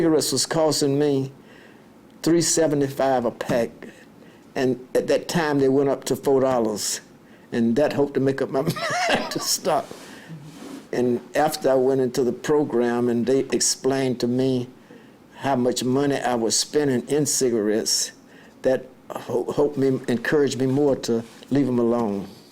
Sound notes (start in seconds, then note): 8.6 chuckles